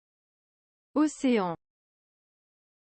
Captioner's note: French